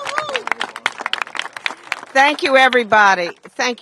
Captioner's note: applause